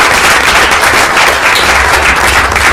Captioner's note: applause